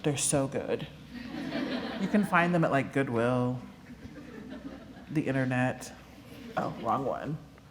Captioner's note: laughter